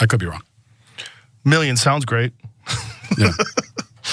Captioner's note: laugh